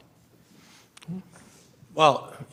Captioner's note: clears throat